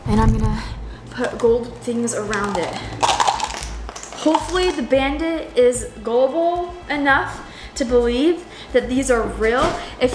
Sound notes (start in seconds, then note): 2.3 gold coins hitting counter